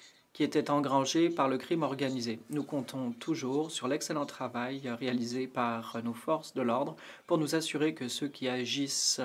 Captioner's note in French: voix de l'interprète